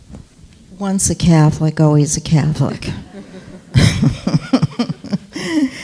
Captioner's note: laughs